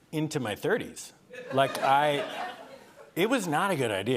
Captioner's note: laughter